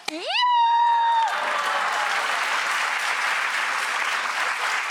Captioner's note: audience applauding